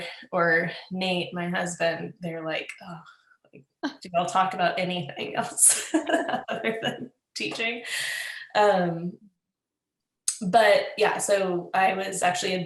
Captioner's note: laughs